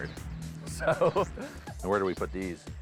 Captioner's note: laughing